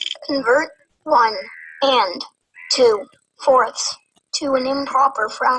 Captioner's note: wheel clicking; voiceover